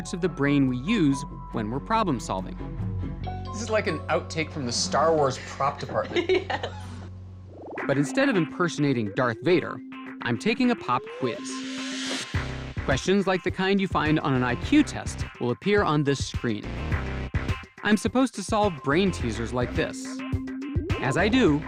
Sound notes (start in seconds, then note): 7.8 laughing